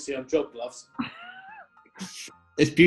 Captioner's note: sniggering